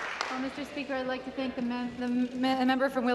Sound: applause

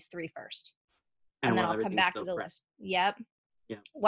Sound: voice muffled

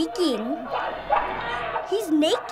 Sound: crazed screaming

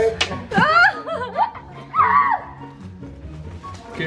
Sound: laughs

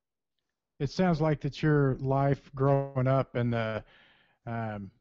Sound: voiceover

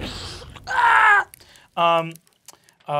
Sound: whooshes; shouts

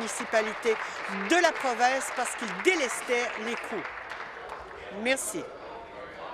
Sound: applause

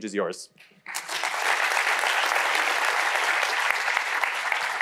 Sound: audience applauding

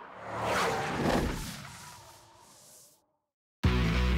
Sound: logo whirs; brakes screech; rock music

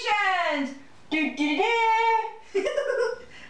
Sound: giggles

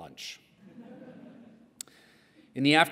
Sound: laughter

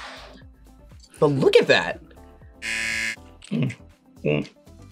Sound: buzzer

